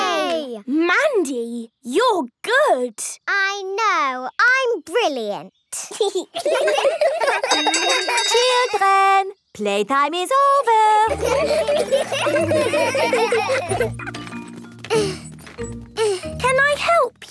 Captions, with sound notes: - Mandy, you're good! - I know. I'm brilliant. (giggling) (laughter) - Children! Playtime is over! (laughter) (grunting) - Can I help you?